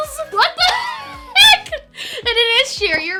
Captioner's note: laughs